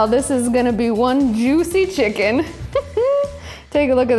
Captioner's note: laughs